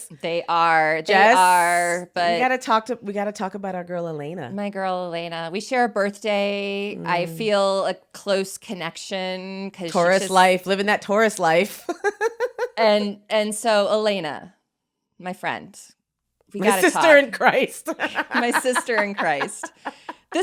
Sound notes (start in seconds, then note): 11.9 laughs; 17.8 laughs